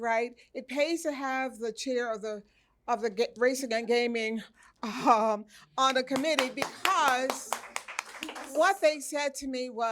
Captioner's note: applause